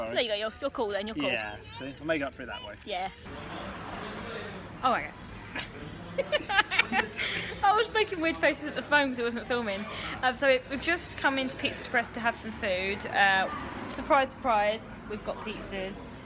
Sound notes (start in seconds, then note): 6.2 she laughs